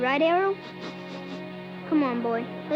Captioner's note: snickers